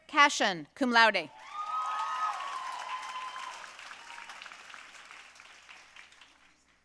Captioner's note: audience cheering and applauding